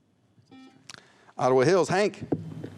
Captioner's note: buzzer